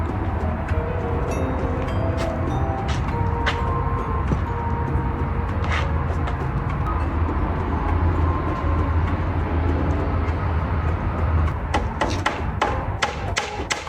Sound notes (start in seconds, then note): 2.4 bang bang bang bang